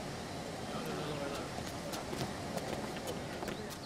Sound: people murmuring

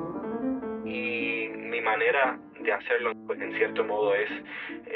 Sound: speaking Spanish

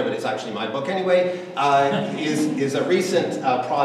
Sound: audience laughs

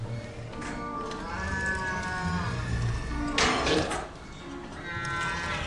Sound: machine sounds

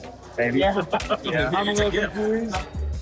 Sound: group laughing

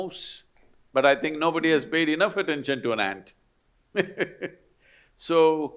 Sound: laughs

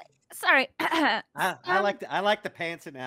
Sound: clearing throat

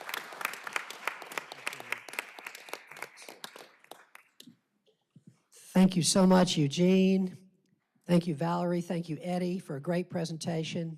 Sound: applause

